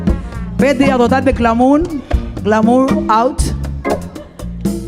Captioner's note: speaking in Spanish; gentle music